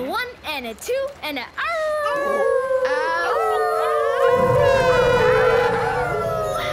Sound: howling

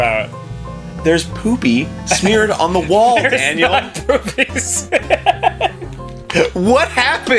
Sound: laughing

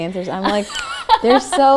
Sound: laughs

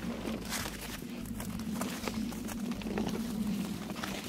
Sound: running in snow

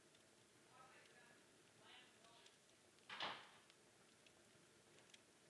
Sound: distant chattering

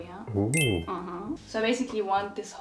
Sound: bell chimes

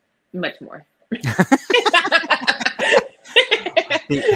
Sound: both laughing

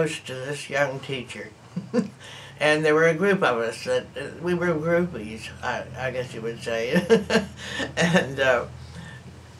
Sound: laughs

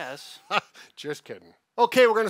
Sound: laughs

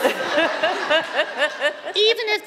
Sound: Chirlane and audience laugh

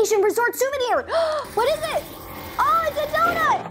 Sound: gasps

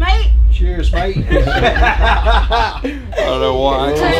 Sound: laughing

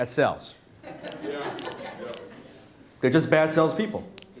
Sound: laughter

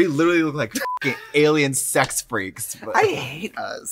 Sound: beep

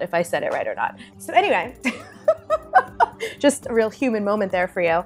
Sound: laughing

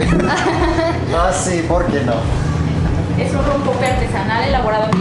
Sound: both laughs; speaking in Mexican

